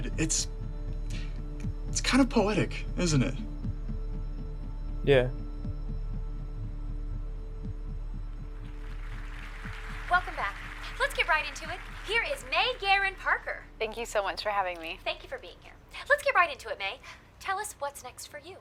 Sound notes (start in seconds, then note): 6.0 soft dramatic music; 8.5 audience applauding